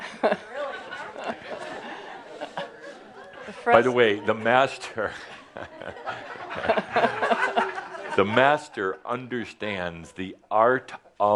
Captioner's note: laughter